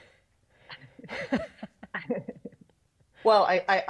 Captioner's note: both laughing